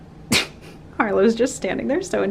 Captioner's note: laugh